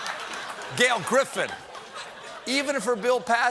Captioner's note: laughter